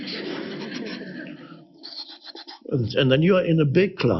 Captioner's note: audience laughs